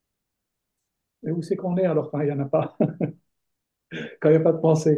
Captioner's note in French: rires